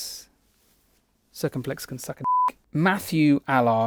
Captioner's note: beep